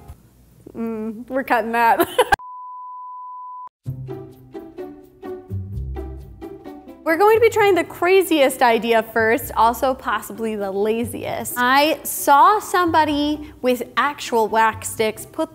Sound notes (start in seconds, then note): 1.9 laughing; 2.6 waiting tone; 3.8 playful music